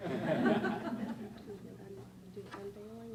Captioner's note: laughing